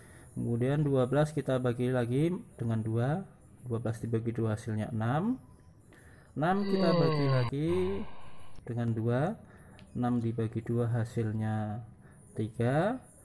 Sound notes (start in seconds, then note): 6.5 hoaaaam